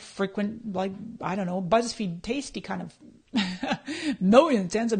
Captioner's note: laughs